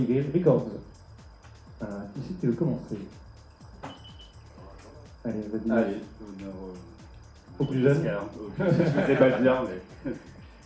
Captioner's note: laughs